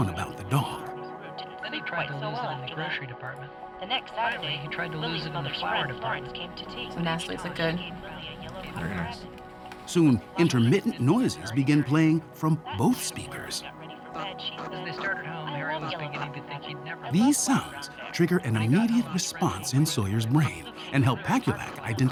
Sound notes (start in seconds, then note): 13.1 beeping and stories overlap